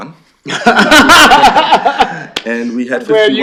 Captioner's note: laughter